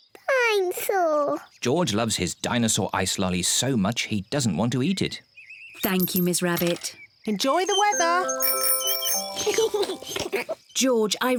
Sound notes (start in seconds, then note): 7.5 rings bell; 9.3 both giggle